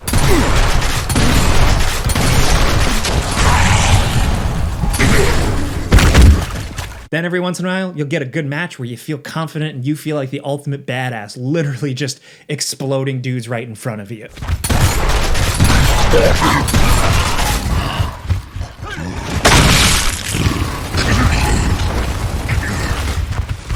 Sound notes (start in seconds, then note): 0.1 gun booming; 0.1 avatar grunting; 14.7 gun booming; 15.8 avatar grunting; 18.1 footsteps thumping; 18.2 avatar grunting; 19.5 gun booming; 20.2 avatar grunting; 23.5 footsteps thumping